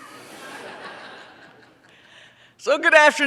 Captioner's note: audience laughs